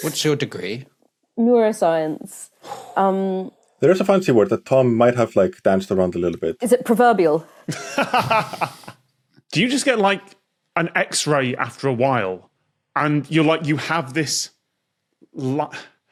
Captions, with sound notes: What's your degree? Neuroscience. (exhales stiffly) There is a fancy word that Tom might have danced around a little bit. Is it 'proverbial'? (laughs) (snickers) Do you just get an X-ray after a while, and you're like, you have this...